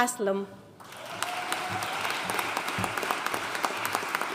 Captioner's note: audience applauding